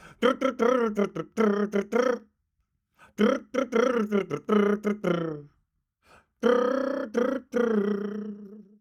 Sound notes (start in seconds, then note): 0.0 humming; 6.4 humming